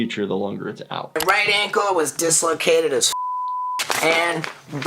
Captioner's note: beep